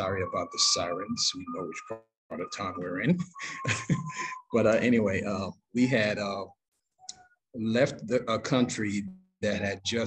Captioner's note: laughs